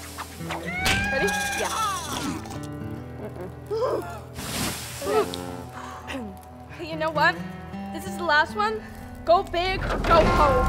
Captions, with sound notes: - Ready? - Yeah. [gasping] You know what? This is the last one. Go big or go home.